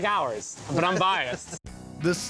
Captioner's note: laughs